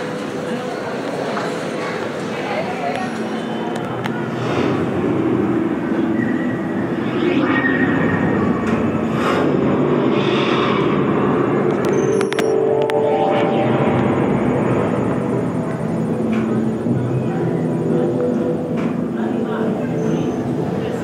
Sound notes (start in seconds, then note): 0.2 large echoing hall, full of chattering voices; 4.2 sound effects played at entrance to Prehistoric Journey: whooshing, rumbling